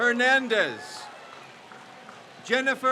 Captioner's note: crowd cheers